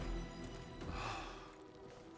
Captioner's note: exhale